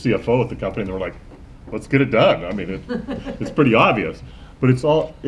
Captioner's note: laughter